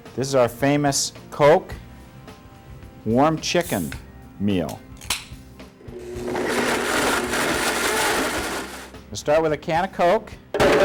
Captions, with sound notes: This is our famous Coke, warm chicken meal. (can crackles) (blender whizzes) Let's start with a can of Coke